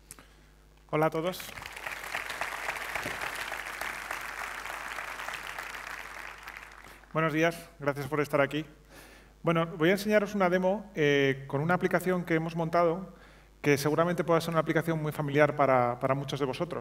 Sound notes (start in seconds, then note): 1.4 applause; 1.5 speaking spanish